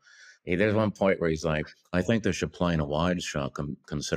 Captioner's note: imitating kubrick